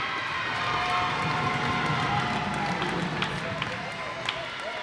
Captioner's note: cheers and applause